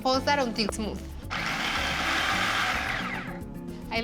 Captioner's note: whirring